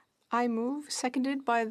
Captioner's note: speaking French